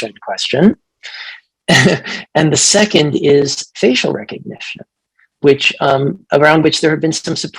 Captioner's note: chuckles